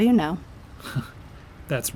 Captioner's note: Nightwing laughs